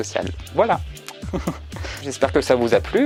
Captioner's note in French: rire